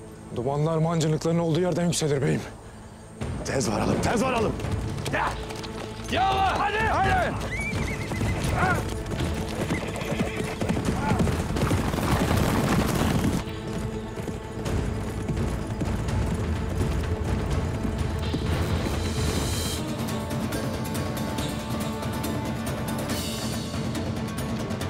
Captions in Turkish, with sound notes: Dumanlar mancınıkların olduğu yerden yükselir beyim. Tez varalım. Tez varalım. Deh! Yallah. Hadi. (At nalı sesleri) (Müzik - Gerilim) (Müzik - Gerilim)